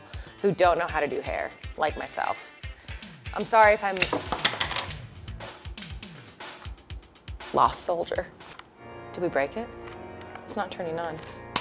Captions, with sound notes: who don't know how to do hair, like myself. I'm sorry if I'm-- (clattering) Lost soldier. Did we break it? It's not turning on.